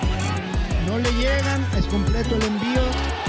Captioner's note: Spanish